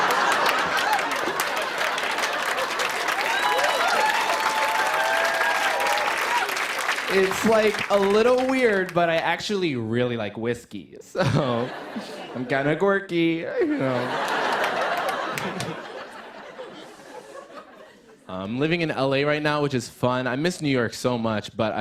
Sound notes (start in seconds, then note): 0.2 cheers and applause; 13.5 laughter